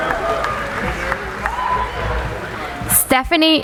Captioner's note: applauding